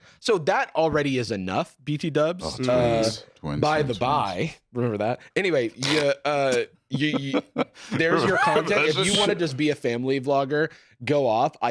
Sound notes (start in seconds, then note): 6.9 laughs